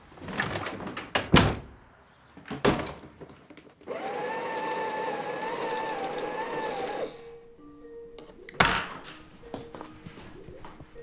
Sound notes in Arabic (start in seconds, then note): 3.8 صوت الآلة; 7.8 صوت صفير الكمبيوتر